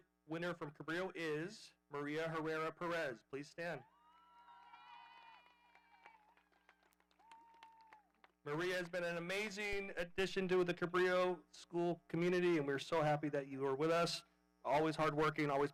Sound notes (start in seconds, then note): 7.1 audience cheering